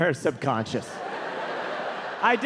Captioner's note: audience laughing